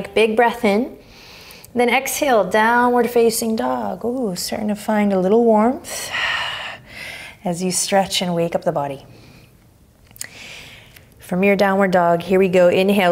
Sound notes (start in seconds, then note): 1.0 inhaling deeply; 5.9 exhaling strongly